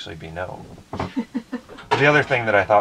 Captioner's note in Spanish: se ríe